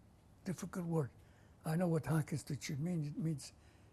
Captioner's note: non-english